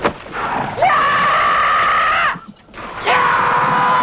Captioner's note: horse neighing; man yells; Hundra roars; men shouting